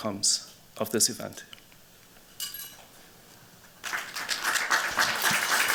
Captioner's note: applause